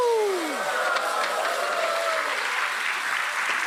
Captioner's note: audience cheers